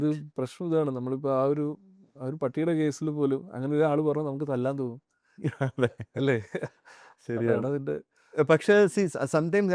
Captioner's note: laughs